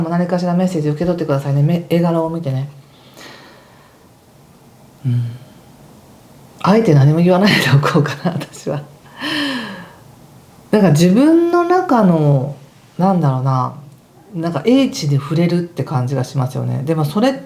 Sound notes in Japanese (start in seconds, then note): 11.2 笑い